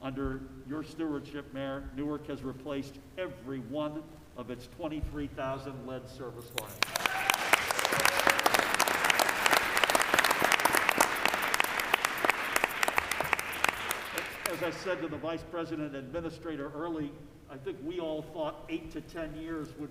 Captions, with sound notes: Under your stewardship, Mayor Newark has replaced every one of its 23,000 lead service lines. (Applause.) As I said to the Vice President administrator early, I think we all thought eight to 10 years